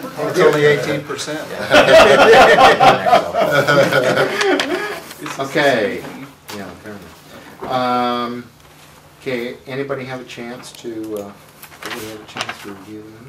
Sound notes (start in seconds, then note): 4.4 laughter